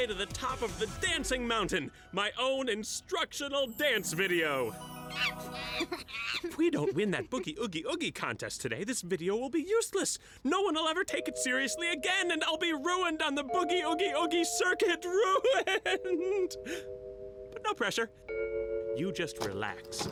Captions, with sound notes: THE DANCING MOUNTAIN-- MY OWN INSTRUCTIONAL DANCE VIDEO! [CHUCKLING] IF WE DON'T WIN THAT BOOGIE-OOGIE-OOGIE CONTEST TODAY, THIS VIDEO WILL BE USELESS. NO ONE WILL EVER TAKE IT SERIOUSLY AGAIN, AND I'LL BE RUINED ON THE BOOGIE-OOGIE-OOGIE CIRCUIT. RUINED! BUT NO PRESSURE. YOU JUST RELAX.